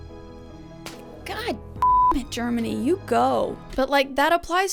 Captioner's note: beep